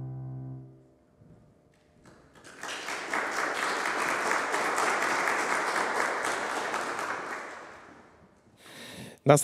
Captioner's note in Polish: oklaski